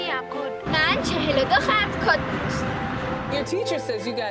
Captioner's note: speaking in foreign language